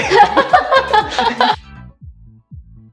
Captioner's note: laughter